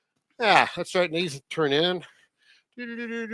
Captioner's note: humming